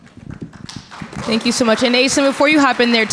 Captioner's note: audience clapping